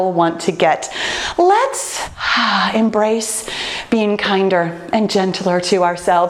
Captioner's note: breathes out